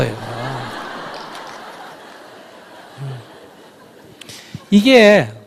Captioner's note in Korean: 청중 웃음